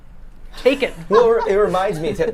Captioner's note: laughs